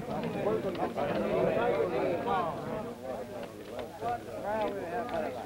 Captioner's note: low taIking